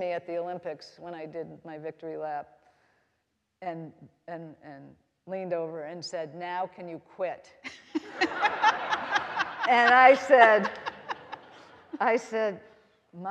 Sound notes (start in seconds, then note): 7.7 all laughing